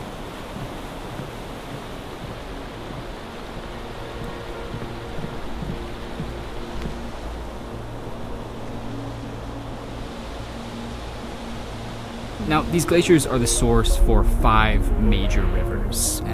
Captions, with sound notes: (water rushing) (soft music) Now these glaciers are the source for five major rivers.